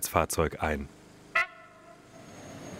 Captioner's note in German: Hupen